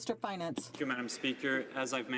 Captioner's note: some Applause